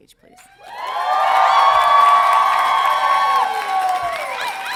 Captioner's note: audience cheering